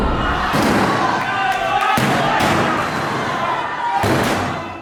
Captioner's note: screams